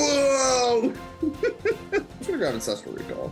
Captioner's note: giggles